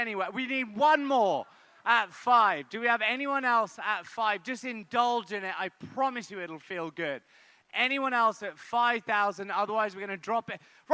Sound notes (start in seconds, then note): none